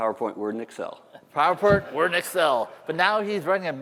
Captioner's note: laughter